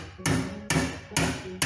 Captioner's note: hammering sounds